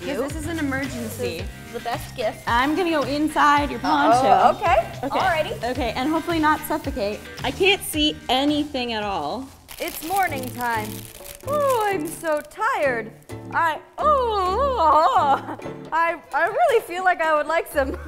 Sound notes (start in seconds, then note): 9.0 bag ruffles